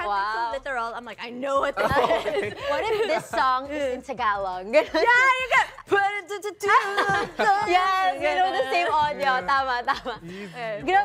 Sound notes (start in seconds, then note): 5.0 chuckles; 6.1 singing